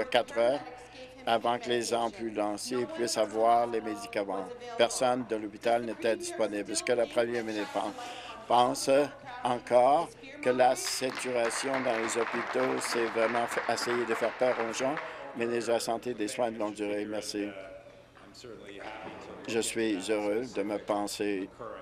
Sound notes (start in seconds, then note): 14.5 applause